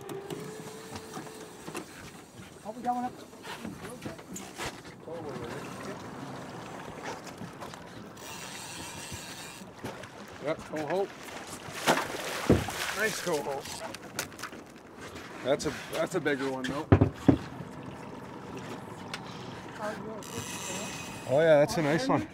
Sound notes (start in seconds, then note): 6.1 reel spinning; 11.0 fish splashing; 18.6 reel spinning